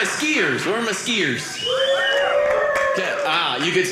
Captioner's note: audience cheering